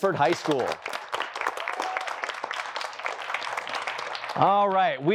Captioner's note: applause